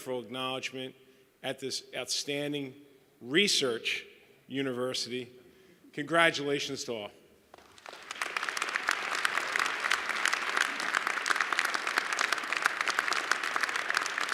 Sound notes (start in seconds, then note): 7.5 applause